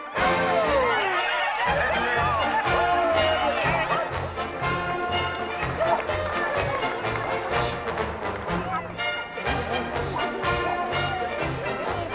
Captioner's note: crowd cheering; marching band music